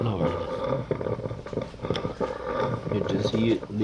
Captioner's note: kisses